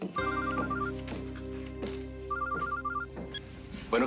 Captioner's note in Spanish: suena el celular